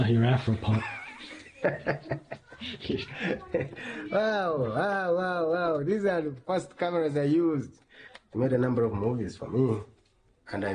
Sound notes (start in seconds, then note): 0.7 laughs